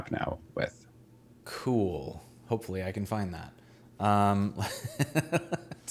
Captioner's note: laughing